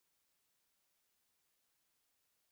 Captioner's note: none